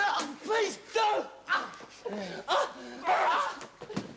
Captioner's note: Dorian grunts, groans